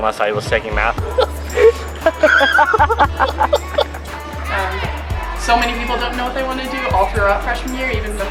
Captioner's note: laughter